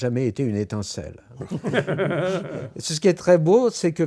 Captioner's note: laughs